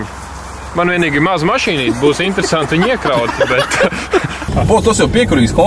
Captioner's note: laughs